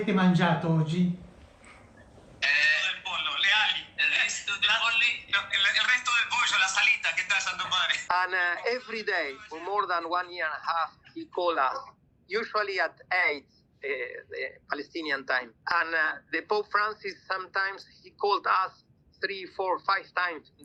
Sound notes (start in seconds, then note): 3.0 speaking alternate language